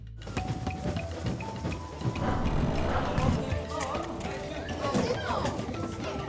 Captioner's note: upbeat music; people chattering